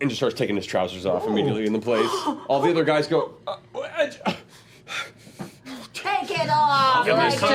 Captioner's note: questioning stutters